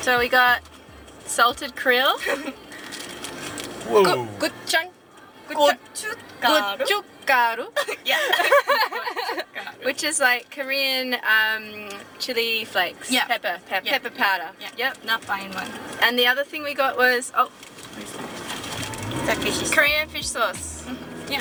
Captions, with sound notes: So we got salted krill, gochung... - Gochugaru. - Gochugaru, (laughing) which is like Korean chili flakes, pepper powder. (speaking in a foreign language) And the other thing we got was Korean fish sauce.